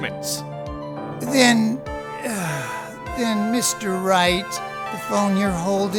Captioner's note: groans